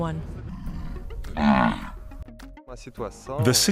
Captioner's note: animal grunts